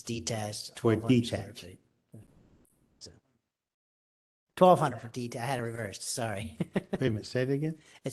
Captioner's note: laughter